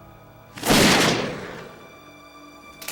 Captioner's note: gun shot